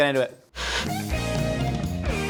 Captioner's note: upbeat Music; Static